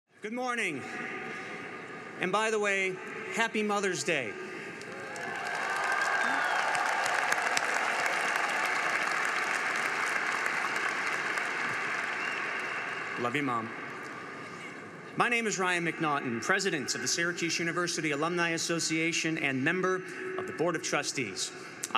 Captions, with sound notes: - Good morning, and by the way, Happy Mother's Day. (audience cheering) (crowd clapping) Love you, Mom. My name is Ryan McNaughton, President of the Syracuse University Alumni Association and member of the Board of Trustees.